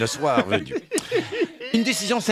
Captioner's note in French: rires